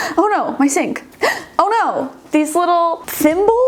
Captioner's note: gasps